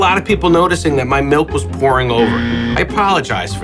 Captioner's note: buzzer blares